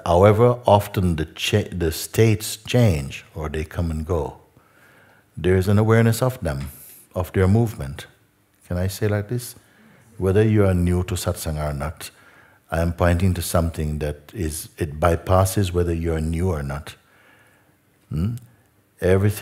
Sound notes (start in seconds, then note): none